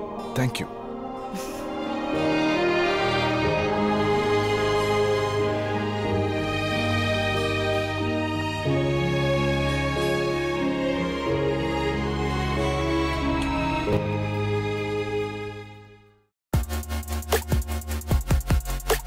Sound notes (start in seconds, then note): 13.2 lift door opens